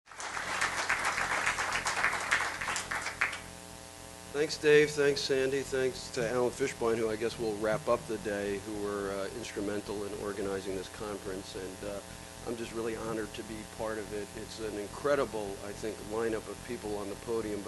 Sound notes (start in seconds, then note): 0.0 applause